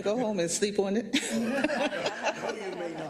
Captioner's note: laugh